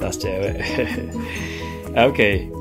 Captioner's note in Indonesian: sound of a light laugh